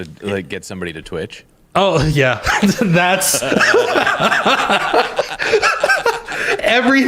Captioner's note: laughter